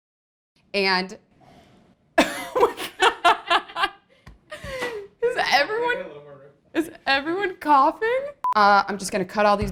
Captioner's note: cough